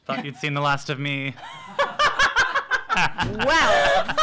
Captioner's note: laughs